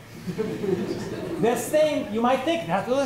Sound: laughter

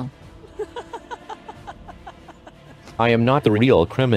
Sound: laughs

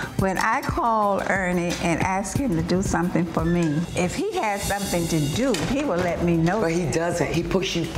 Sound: none

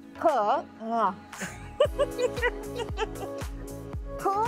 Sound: laughter

